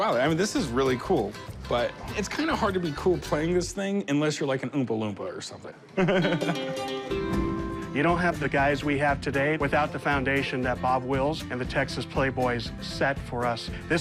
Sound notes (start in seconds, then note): 5.9 laughter; 6.1 mandolin playing